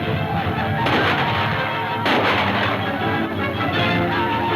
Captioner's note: gunfire pops